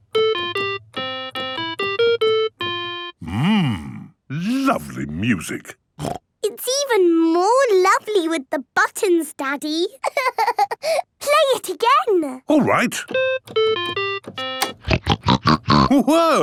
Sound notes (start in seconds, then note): 0.0 playing theme song; 6.0 snorting; 10.0 laughing; 13.1 playing theme song; 14.8 snorting